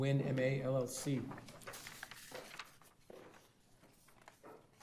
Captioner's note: papers rustling